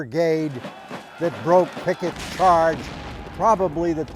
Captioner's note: guns blasting